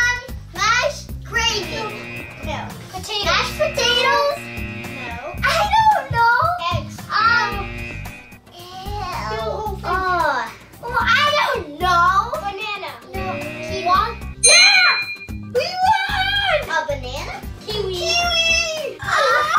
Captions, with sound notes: Um, mashed gravy. [Buzzer] No. Potatoes? [Buzzer] Mashed potatoes? [Buzzer] No. I don't know! Eggs? [Buzzer] Ew. Ugh. I don't know! Banana. [Buzzer] Kiwi. [Ding] Yeah, we won! A banana? Kiwi! Kiwi!